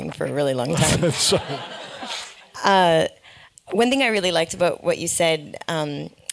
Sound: laugh

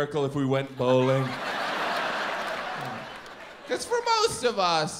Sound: audience laughs

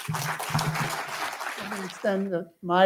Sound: applause

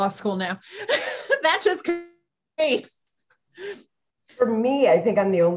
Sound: panel laughs

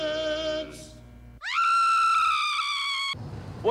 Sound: woman screams

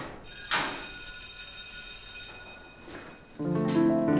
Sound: school bell rings

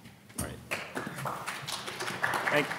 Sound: audience applauding

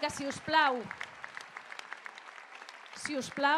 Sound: applause

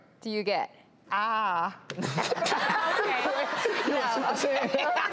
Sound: laughing

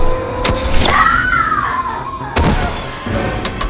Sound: screams

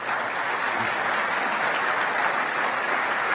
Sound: applause

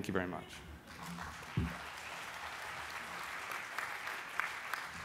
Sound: applause

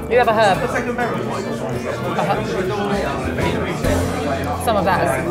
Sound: background chattering

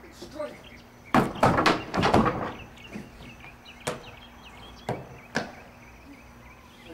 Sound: sound of man falling on wooden porch

